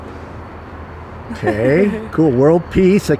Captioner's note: giggles